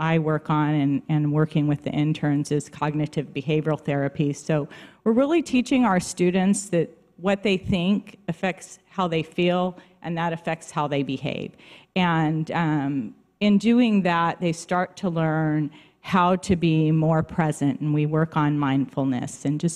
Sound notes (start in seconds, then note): none